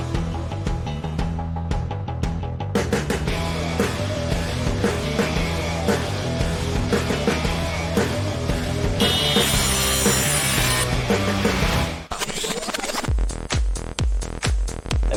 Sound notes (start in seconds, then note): 0.1 anticipatory rock music; 8.9 saw grinding